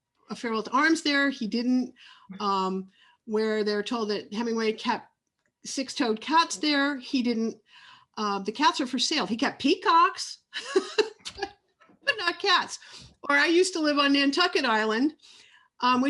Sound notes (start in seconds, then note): 10.9 laughs loudly